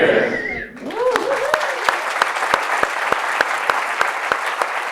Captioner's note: audience applauds